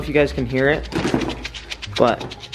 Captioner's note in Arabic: نردز كاندي يهز